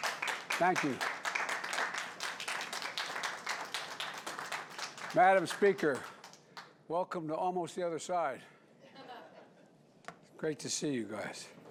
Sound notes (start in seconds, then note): 3.9 applause; 8.8 laughter